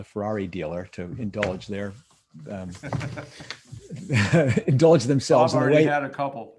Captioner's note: laughs